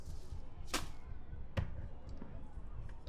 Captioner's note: bag rustles